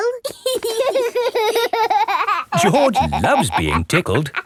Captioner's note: laughing